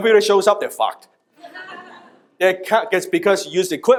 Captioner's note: audience laughs